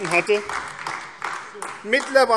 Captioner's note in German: Beifall AfD